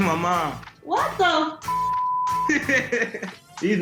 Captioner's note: beep